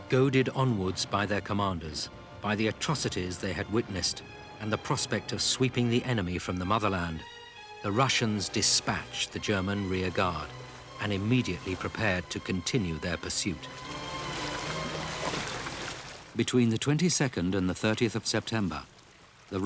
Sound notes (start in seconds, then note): 14.8 stirring symphonic music; 14.8 water babbling